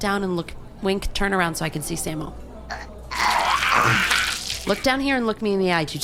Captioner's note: another horrible squishing sound